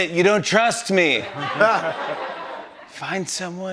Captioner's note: laughter